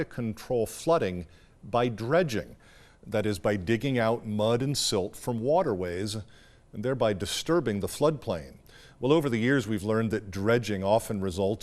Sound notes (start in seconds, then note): none